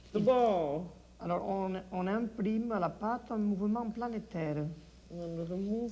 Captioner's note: speaks French